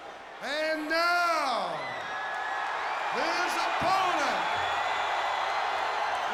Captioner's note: audience applauds and cheers; audience cheers